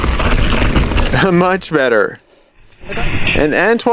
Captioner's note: chuckles